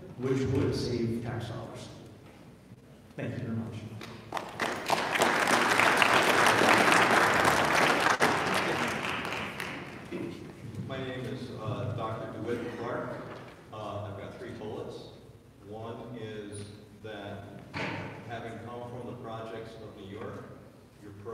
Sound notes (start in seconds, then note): 4.1 audience applauding